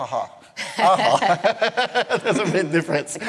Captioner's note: laughter